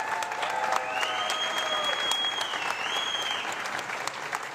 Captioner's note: loud whistling